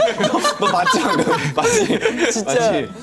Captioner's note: haha